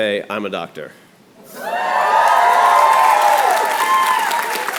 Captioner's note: cheers and applause